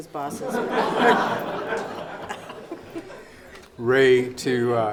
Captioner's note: laughing